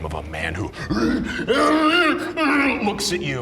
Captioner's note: growls